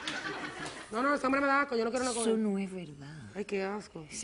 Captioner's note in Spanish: Risas